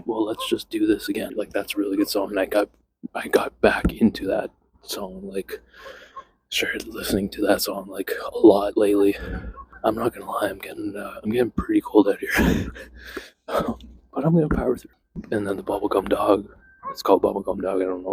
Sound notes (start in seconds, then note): 12.2 laughs